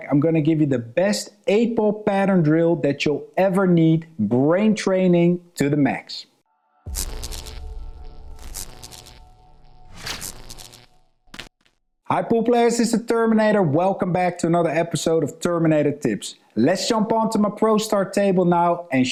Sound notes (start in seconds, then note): 6.8 electricity crackling